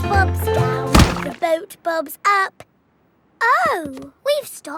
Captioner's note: thuds